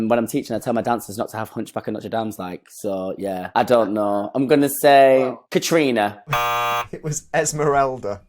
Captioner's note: buzzer sounds